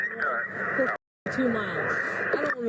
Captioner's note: radio chatter